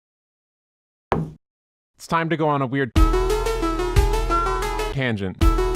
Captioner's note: thud